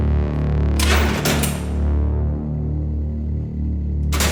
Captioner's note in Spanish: Ruido de la puerta